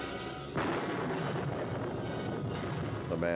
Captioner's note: thunder crashes